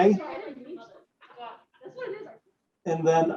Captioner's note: people talking